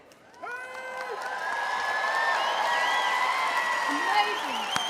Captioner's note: audience applauding and cheering